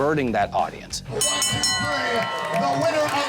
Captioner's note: bell dinging